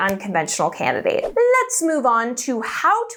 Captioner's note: air whooshing